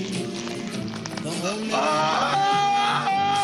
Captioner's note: screaming; continues Screaming